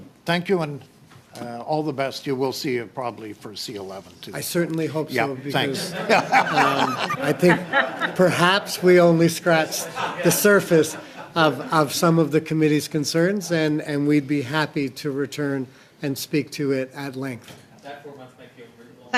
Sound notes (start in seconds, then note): 12.5 laughter